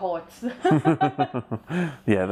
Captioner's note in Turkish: gülüyoruz